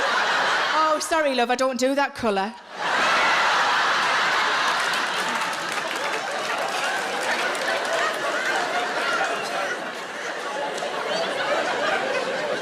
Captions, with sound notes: Oh sorry love, I don't do that colour. (audience laughing)